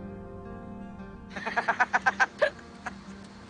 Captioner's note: Jimmy laughing